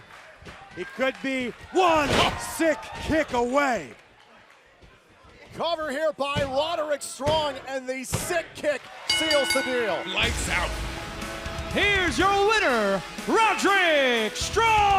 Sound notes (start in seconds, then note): 9.1 bell ringing